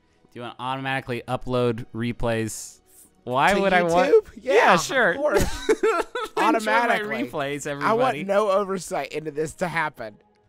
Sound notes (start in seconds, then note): 5.2 both laughing